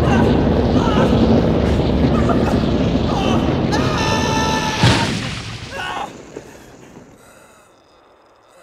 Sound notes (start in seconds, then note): 3.0 screams